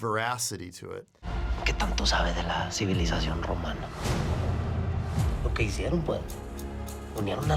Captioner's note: intense music; man speaking Spanish